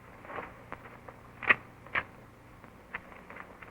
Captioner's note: gun cocks